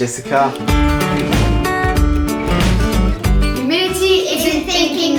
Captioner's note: upbeat music; air whooshes